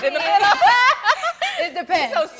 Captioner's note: everyone laughing amusingly